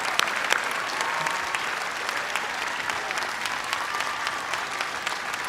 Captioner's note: cheers and applause